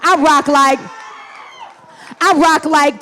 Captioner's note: audience cheering